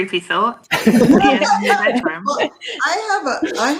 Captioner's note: laughter